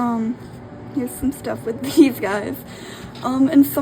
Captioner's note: laughing